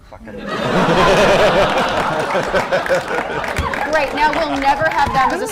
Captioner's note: laughter